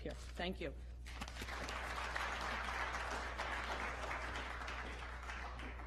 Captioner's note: applause